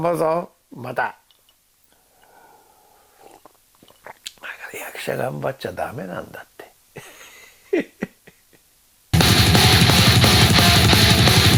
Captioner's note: laughs